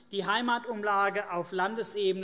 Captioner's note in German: none